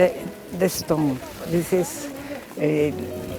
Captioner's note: speaking in foreign language